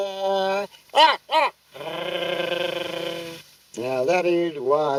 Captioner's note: crows